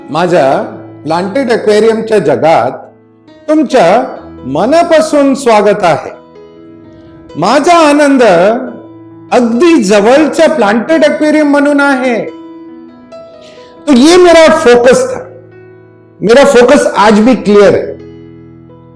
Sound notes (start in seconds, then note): 7.5 continues talking in Marathi